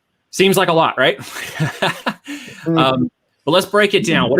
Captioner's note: laughs